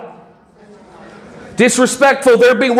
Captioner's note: audience answering